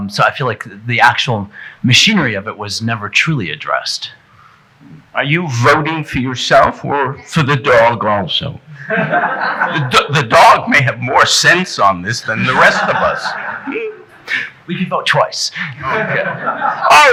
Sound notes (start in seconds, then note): 8.8 audience chuckling; 15.7 audience chuckling